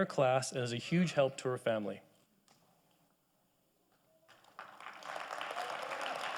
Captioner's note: audience applauding